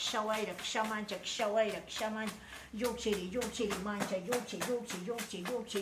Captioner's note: chanting in Quechua